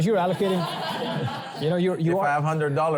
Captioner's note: laughter